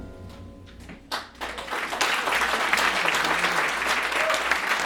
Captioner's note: audience clapping